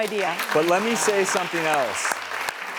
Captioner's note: audience applauds